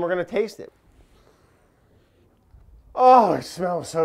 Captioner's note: lightly inhaling